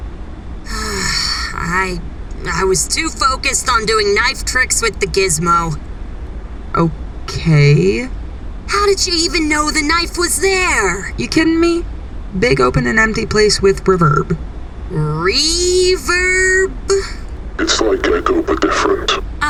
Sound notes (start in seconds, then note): 0.6 Ash sighs